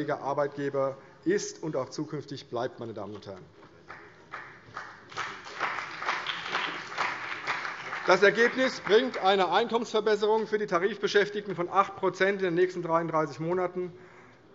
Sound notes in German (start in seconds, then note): 3.8 Beifall CDU und BÜNDNIS 90/DIE GRÜNEN